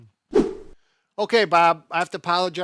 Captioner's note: whooshing